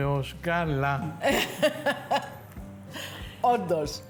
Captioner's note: laughs